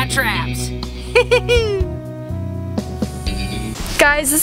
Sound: laughs

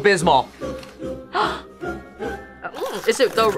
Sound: gasps

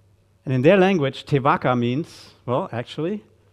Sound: speaking in Maori

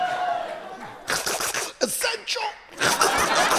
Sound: gurgling

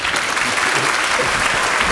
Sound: applause

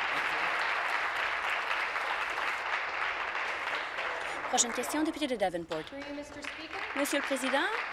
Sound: applause

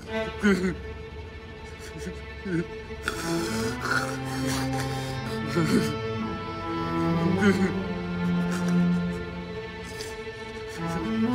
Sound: hard breathing; crying; crying and heavy breathing

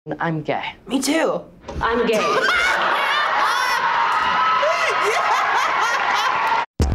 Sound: laughs; upbeat techno intro

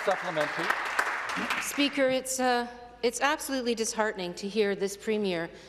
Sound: some Applause

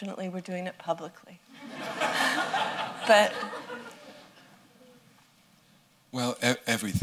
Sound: laughter

